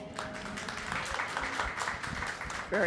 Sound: applause

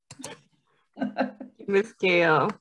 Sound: laughs

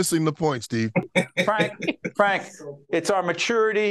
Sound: laughing

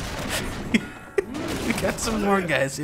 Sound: laughs

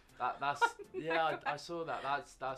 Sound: laughs

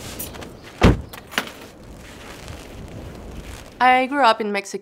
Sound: door banging

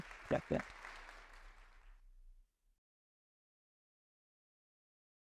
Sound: audience applauding

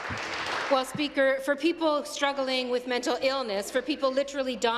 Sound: applause

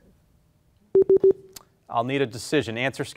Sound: warning bleep

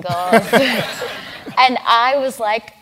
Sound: laugh

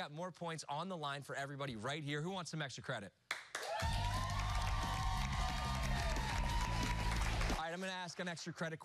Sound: cheers and applause

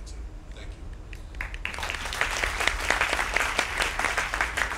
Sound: applause

